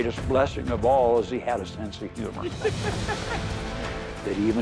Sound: laughing

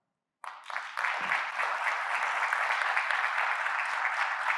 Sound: audience applauding

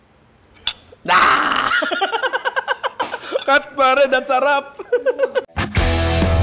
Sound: screams; laughs; outro music

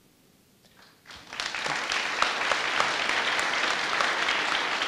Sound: audience applauding

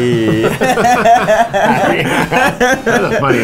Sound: laughing

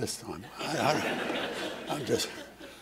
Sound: laughter

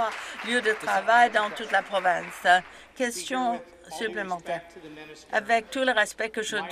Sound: some Applause

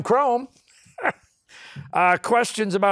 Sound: laughs

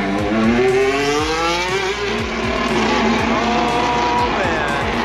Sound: engine revs

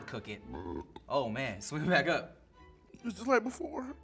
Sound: burps

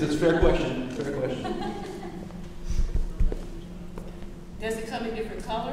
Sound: laughing

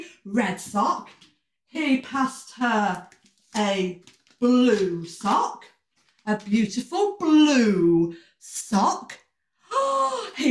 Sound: gasp

